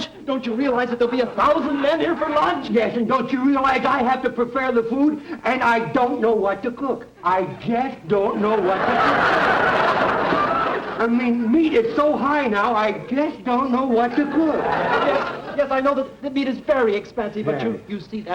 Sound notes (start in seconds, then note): 8.4 audience laughter; 14.1 audience laughter